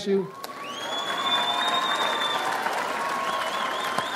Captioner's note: audience applauds